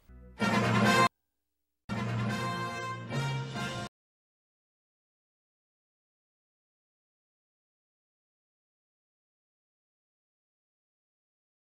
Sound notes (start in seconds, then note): 4.3 silence resuming